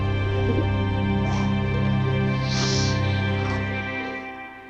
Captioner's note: snakes hissing; dramatic music